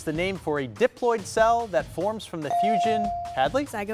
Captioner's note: buzzer dings